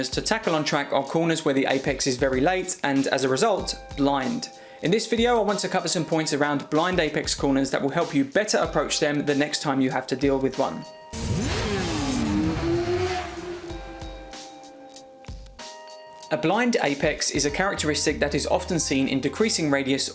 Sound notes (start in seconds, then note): 11.1 motorcycle engine roaring; 13.8 gentle music